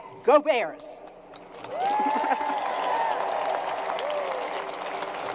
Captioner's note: crowd applause